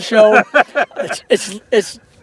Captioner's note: laughter